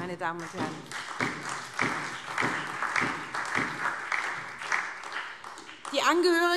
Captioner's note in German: Beifall